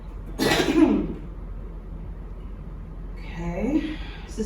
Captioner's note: coughing